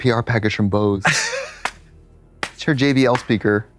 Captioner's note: Katya sputters and slaps